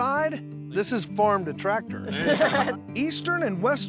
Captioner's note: everyone laughs